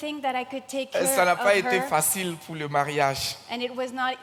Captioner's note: continues in French